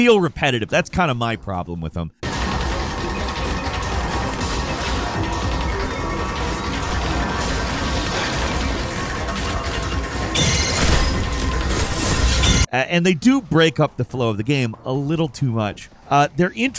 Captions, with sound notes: They feel repetitive, that's kind of my problem with them. (gameplay playing) And they do break up the flow of the game a little too much.